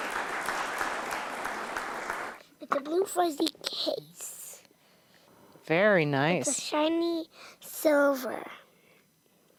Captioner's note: applause